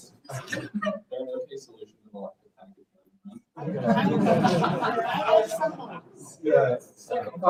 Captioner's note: audience laughing